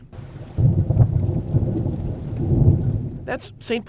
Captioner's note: thunder rumbles